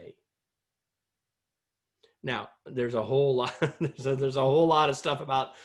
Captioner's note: laughter